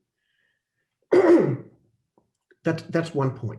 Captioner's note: sneezing